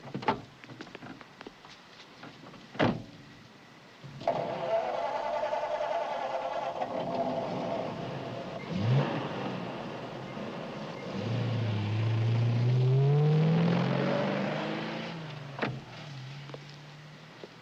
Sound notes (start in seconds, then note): 2.8 car door closes; 4.2 starter whirs; 8.6 engine revs; 11.7 car speeds away